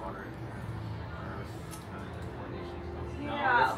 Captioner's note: Doctor Strange mumbling to himself